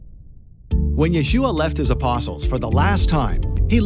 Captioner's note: male Voice